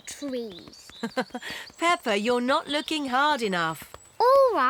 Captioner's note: laughs